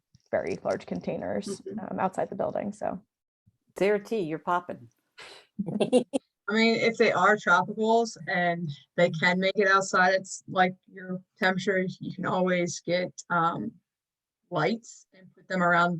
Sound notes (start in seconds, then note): 5.6 laughter